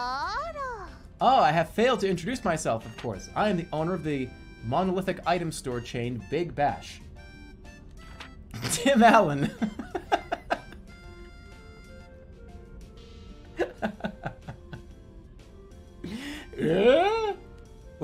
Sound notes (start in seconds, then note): 10.6 bursts out laughing and giggling